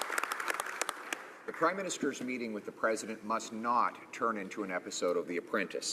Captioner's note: some Applause